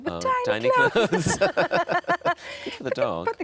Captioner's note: laughing